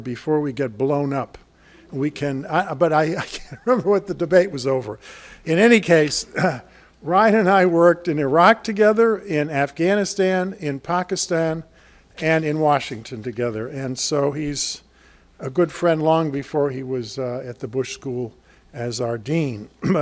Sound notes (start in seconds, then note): 3.8 laughs